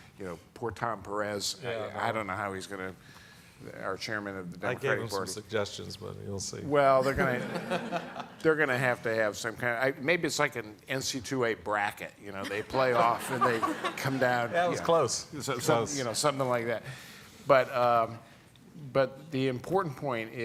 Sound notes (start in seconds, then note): 7.0 all laughing